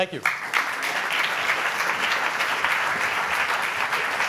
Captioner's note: audience applauding